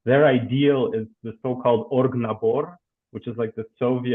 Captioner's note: speaking in foreign language